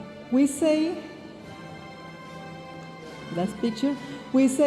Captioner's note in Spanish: hablando en inglés